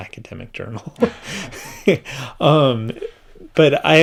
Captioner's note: laughs